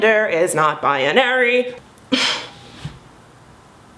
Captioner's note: huffing